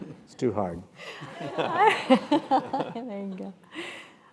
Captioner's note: laugh